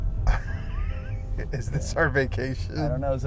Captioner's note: laughter